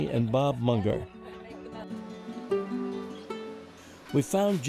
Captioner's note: chatter